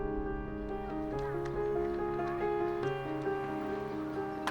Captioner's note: gentle bright music; children playing